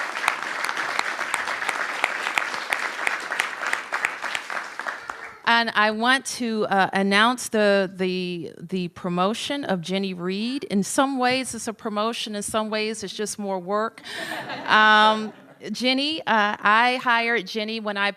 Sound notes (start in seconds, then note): 5.7 applause; 14.0 laughter